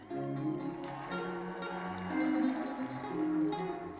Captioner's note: crowd cheering